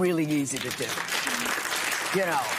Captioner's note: applause